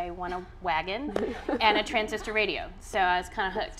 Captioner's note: audience laughing